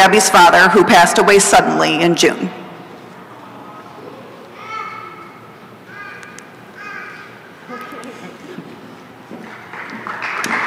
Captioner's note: applause